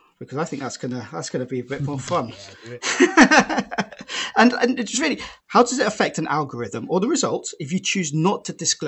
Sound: laughter

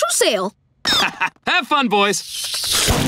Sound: laughing

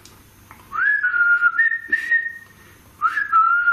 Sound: whistles

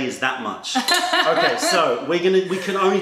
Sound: laughter

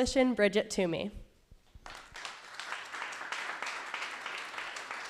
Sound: applause

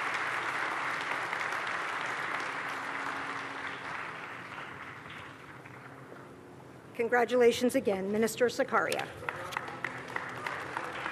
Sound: applause

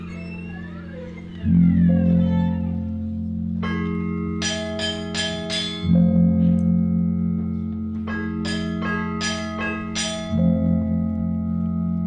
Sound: gong and metal noises

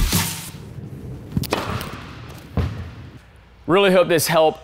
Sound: whack

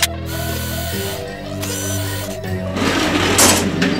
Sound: scanning; metal clanging

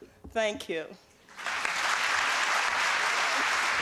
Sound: applause

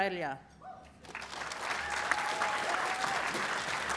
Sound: applause

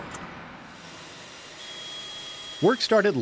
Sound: tools whirring

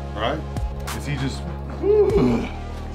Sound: tired groan

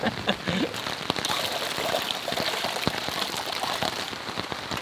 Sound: rain pouring; laughs

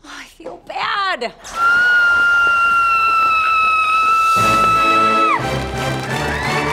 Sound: screaming

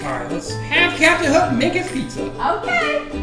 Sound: voiceover

